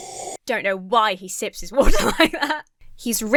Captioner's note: slurping drink; laughs